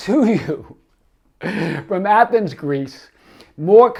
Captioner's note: laughs